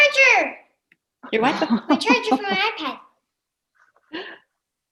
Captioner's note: laughs